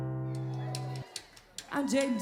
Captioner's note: cheering